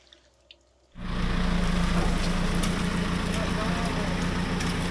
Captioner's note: engine rumbling